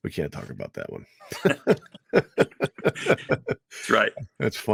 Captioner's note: both laughing